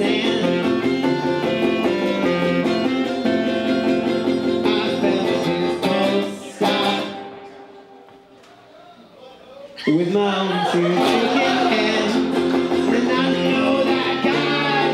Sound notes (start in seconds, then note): 7.3 pause, audience calling out